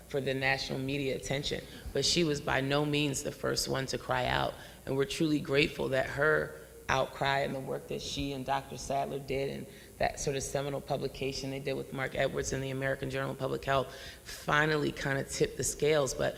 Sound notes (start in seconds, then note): none